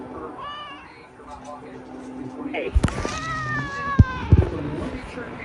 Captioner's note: Caprice growls and yowls at Ava; continues to growl